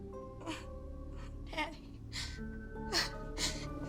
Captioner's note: Cathryn crying; crying